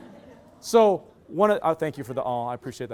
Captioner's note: loud laughter